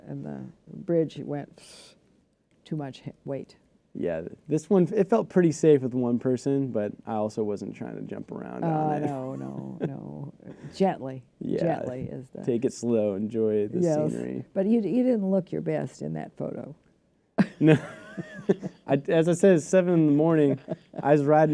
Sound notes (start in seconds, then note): 17.4 laughter